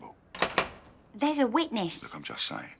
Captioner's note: knock at the door